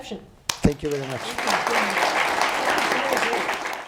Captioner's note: applause